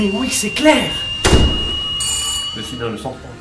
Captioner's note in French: porte qui claque, bouilloire qui siffle et sonnette